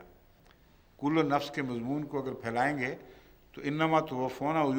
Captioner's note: Arabic